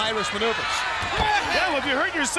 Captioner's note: crowd cheering